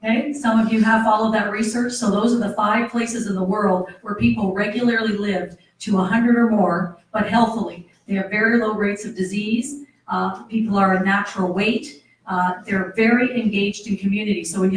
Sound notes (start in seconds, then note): none